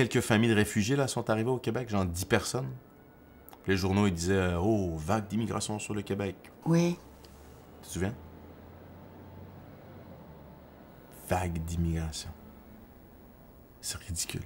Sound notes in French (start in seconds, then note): none